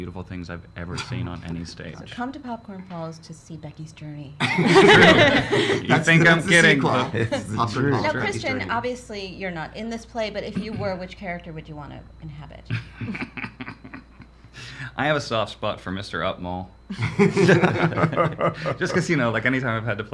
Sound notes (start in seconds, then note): 4.4 laughs